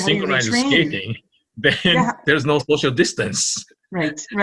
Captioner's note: laughing